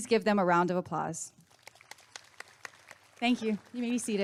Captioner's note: applause and cheering